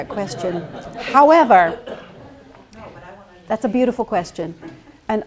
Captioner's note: laughter